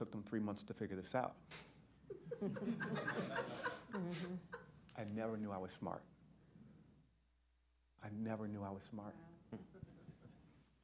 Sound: laughter

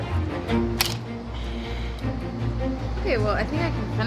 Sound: trotter snapping

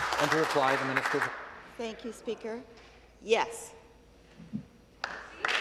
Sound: some Applause

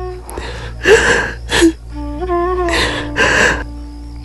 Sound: weeping

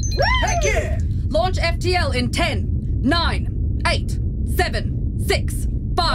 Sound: The WHOOSH of the FTL engine as the ship speeds to Planet V

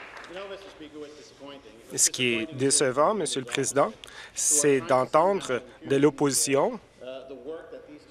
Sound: applause

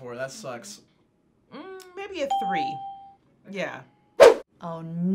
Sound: ding

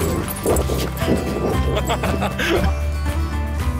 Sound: laughter

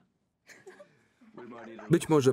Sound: laughing

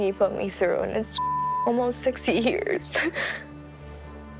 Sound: beep

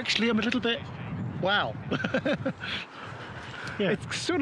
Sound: chuckles

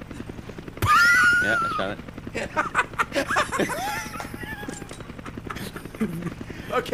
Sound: laughs

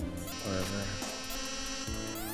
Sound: awful glitch noise

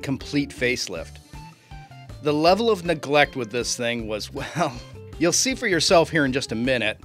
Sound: chuckles

